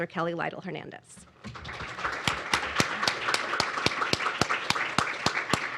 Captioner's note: applause